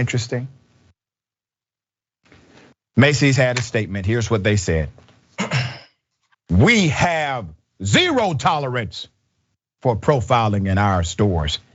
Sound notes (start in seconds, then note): 5.3 cough